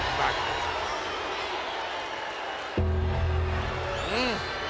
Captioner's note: bells tolling